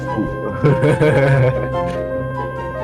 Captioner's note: laughing even louder